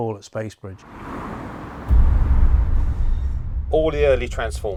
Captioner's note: car engine fades